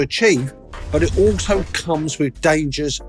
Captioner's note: air whooshing